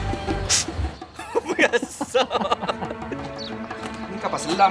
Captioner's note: laugh